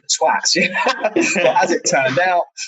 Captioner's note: laughing